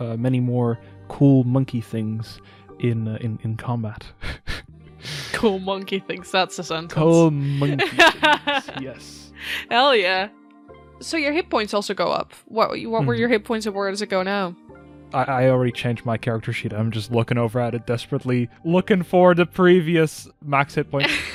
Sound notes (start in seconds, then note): 7.2 laughs